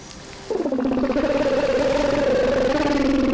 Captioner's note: gurgling